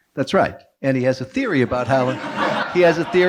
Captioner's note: audience laughing